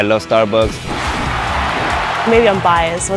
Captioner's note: cheering crowd